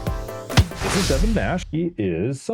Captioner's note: swoosh